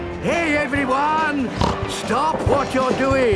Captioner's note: snorts